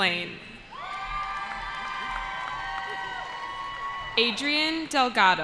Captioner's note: cheering